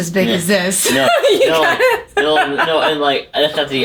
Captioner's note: laughs loudly